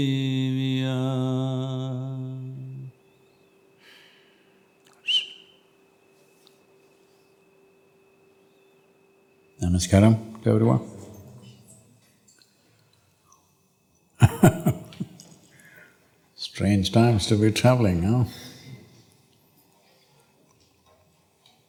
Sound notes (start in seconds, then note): 14.2 laughs